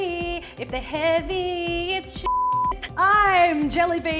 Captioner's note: beep